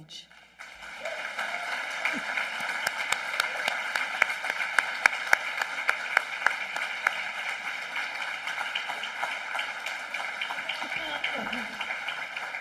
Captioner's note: applause